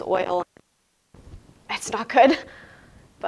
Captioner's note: laughing